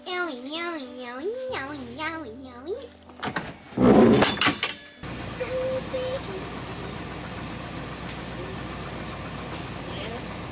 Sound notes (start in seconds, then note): 4.3 car door close; 7.2 engine start running